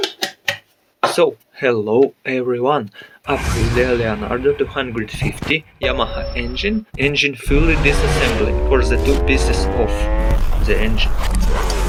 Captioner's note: Yamaha engine